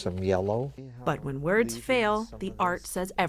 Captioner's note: voice-over